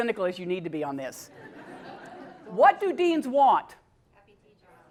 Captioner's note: laugh